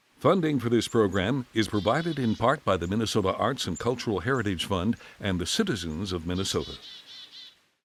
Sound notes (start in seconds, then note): 6.9 birds chirping